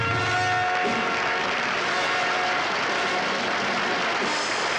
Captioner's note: audience applauds; grand orchestral music